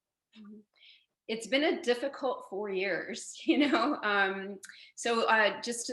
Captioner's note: chuckles